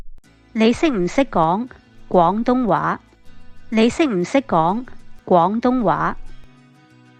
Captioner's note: in Cantonese